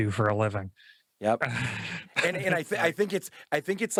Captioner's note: sighs